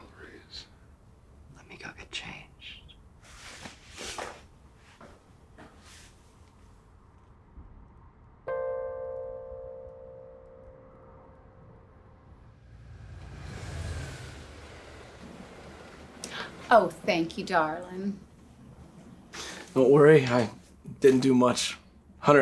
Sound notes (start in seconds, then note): 8.6 pinging; 13.6 cars passing